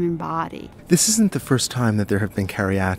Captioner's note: voiceover